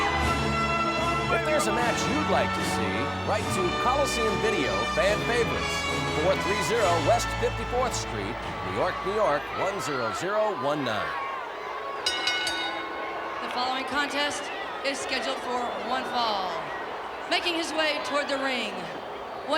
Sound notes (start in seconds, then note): 12.0 bell ringing